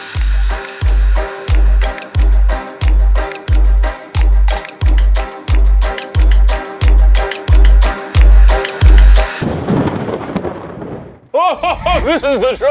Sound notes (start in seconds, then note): 0.0 upbeat mysterious music; 9.3 thunder rumbling